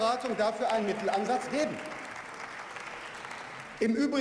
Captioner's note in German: Beifall